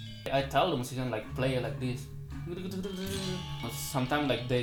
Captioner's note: imitates gamelan